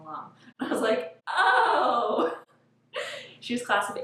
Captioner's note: laughs